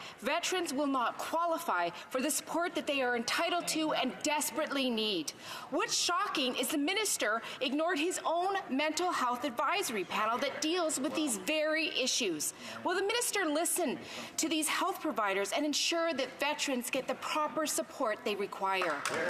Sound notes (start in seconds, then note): none